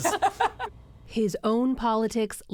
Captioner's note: laughter